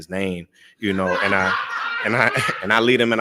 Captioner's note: laughs